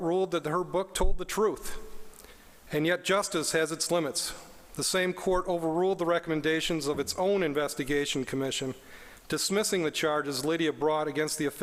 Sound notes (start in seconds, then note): none